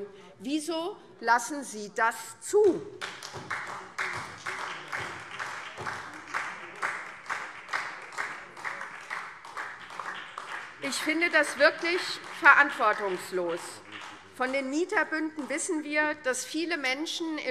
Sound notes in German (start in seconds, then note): 2.9 Beifall SPD